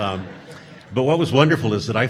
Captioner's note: audience laughing